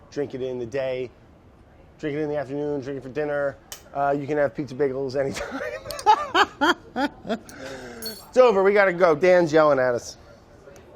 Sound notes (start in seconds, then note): 5.3 laughter